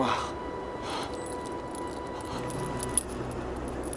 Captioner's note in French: soupirs